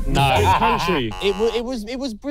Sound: laughing

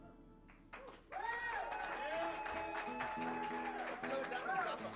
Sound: saludos y aplausos; cheers and applause

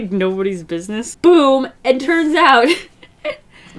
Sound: laughs

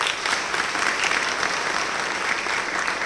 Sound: applause

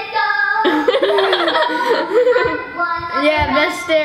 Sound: laughing

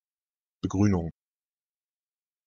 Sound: fast Pronunciation

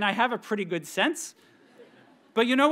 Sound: audience members chuckle

